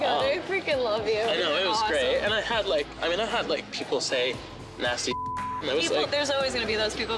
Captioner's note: beep